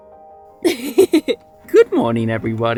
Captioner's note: laughs; instrumental music